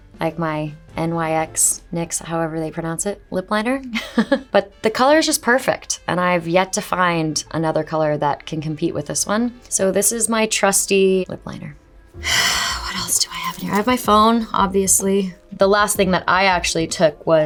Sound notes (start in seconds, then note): 4.1 Shailene laughs; 12.2 Shailene exhales